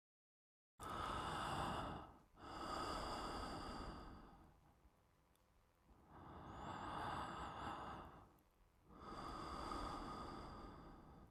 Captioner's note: Respiração